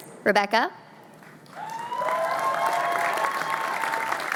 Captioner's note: cheering